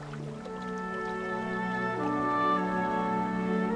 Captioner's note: water flowing